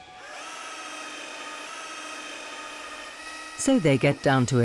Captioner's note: drill whirring